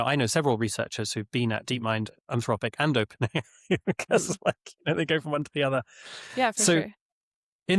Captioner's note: laughs